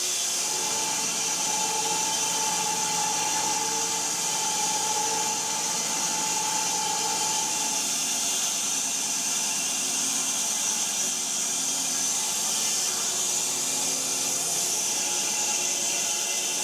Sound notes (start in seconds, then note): 10.7 saw buzzing